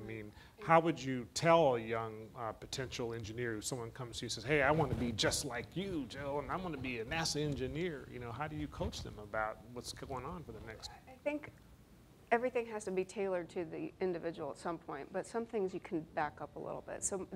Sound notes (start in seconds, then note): none